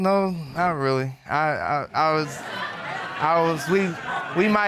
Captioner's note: audience laughing